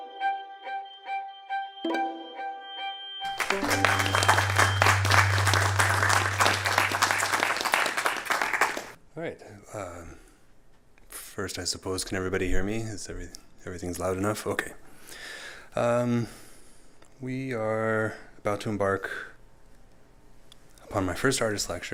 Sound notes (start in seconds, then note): 3.2 applause